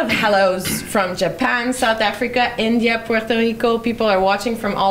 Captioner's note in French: hésitation